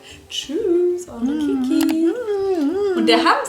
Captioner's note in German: hohes Summen